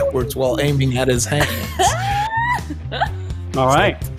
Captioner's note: laughs